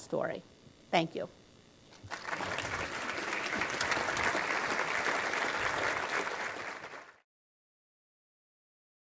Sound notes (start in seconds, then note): 2.0 applause